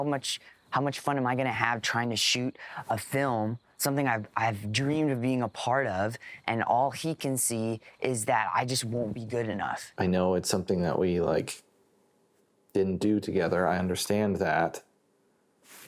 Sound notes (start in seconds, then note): none